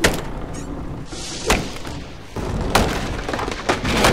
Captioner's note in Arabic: صوت الرعد